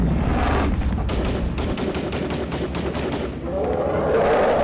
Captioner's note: growling; guns firing